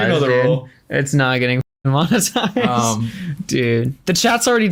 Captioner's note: laughs